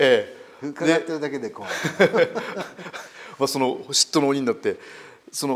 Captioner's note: laugh